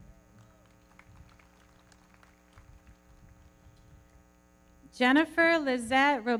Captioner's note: everybody clapping